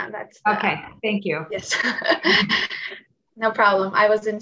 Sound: laughs

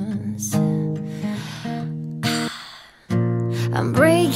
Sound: inhale; exhale

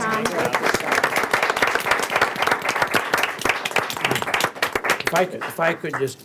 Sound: board members applauding

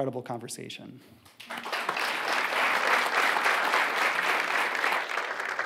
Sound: audience clapping

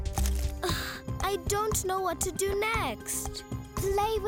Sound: sighs

